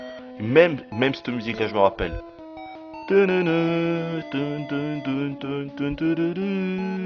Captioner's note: hums the tune